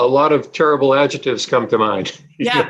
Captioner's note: laughing